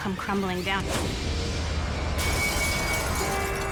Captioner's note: glass shattering